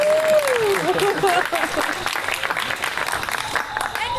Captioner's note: Lovers applaud; audience laughs; audience applause